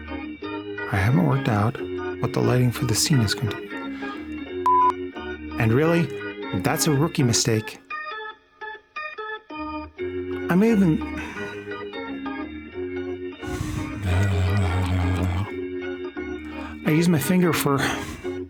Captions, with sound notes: I haven't worked out what the lighting for the scene is going to be And really, that's a rookie mistake I may have um... [Freaky mouth sounds] I use my finger for [laughs]